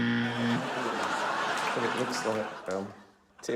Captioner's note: wrong buzzer sound; laughter